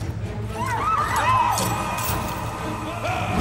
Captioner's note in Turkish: Çığlık sesleri; Savaş sesleri